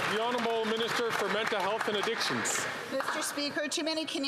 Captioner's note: some Applause